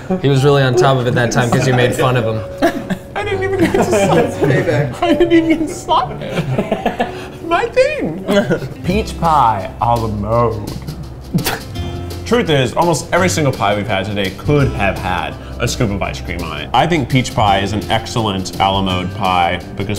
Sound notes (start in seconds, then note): 6.4 laughs